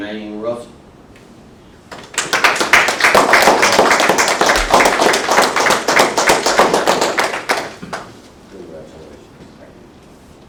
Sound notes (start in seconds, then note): 1.9 applause